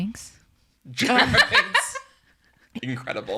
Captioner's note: laughs